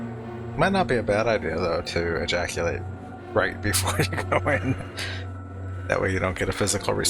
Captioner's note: laughing